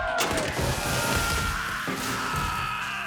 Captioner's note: screaming